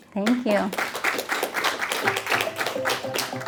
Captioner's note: applause